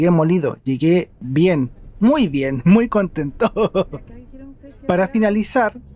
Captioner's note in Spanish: risas